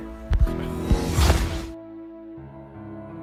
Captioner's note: portal closes